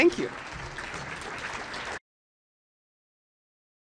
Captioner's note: audience clapping